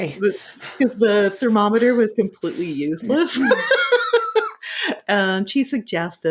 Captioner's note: laughing